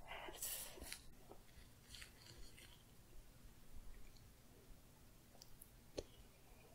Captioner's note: quiet glove sounds